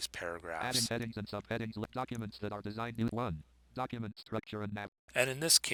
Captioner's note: synthesized speech